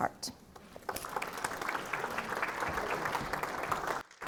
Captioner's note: audience applauding